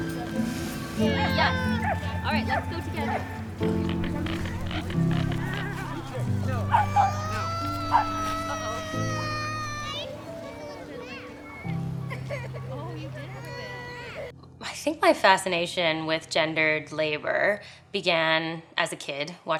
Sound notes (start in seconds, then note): 1.0 child crying; 6.6 child crying; 11.8 soft music